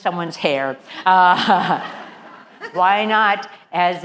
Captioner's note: laugh